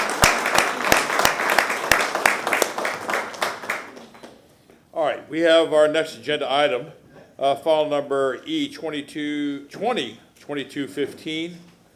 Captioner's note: applause